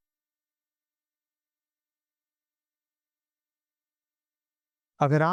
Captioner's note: silence